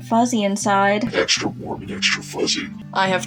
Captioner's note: distorted